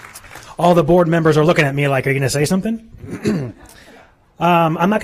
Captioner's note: applause